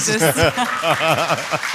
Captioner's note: applause